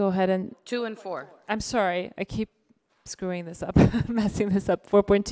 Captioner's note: giggles